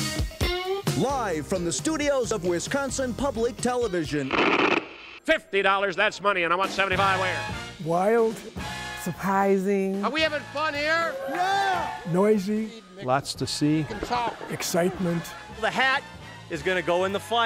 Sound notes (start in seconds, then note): 4.2 crackle